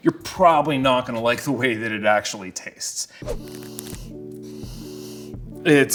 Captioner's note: sniffs